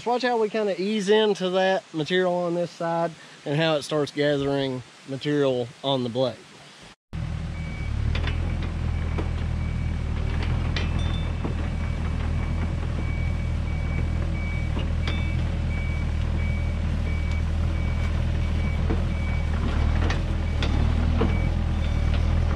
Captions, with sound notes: we kind of ease into that material on this side and how it starts gathering material on the blade. (excavator grading)